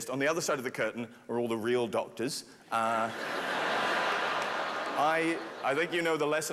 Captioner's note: laughter